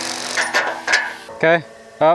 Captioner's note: drilling; metals clanking